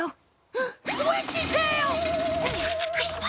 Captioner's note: gasps